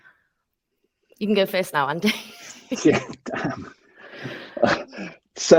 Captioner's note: chuckling